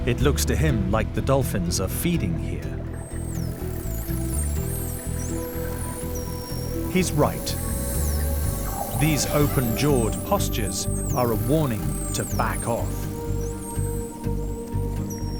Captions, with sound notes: It looks to him like the dolphins are feeding here. (high-pitched dolphin squeaks) He's right. These open jawed postures are a warning to back off.